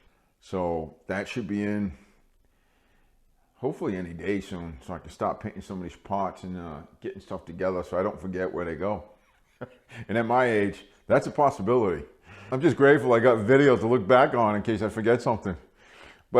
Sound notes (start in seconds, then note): 9.4 laughing